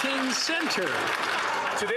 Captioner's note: some Applause